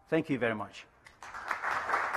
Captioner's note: applause